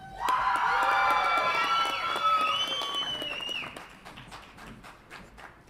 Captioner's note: audience applauds and cheers